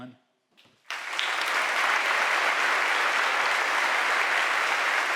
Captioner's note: audience applauding